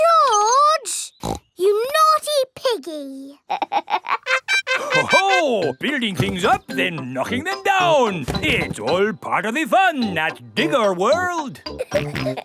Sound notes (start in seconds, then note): 1.2 snorts; 3.4 laughs; 11.8 peppa and george laughing